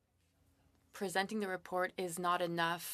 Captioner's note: speaking French